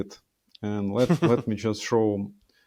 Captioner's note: chuckling